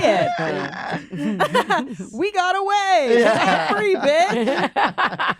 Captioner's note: laughs; laughter